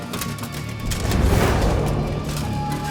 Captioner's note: suspenseful music; cape whooshes; suspenseful music continues